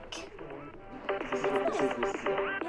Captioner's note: group chattering; upbeat dance music continues